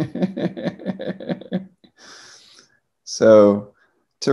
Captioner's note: laughing